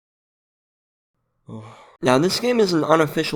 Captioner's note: sigh